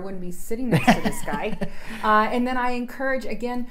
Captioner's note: laughs